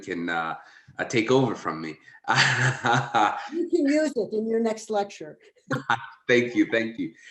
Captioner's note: laughter